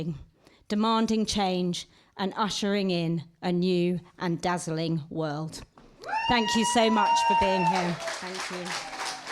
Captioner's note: applause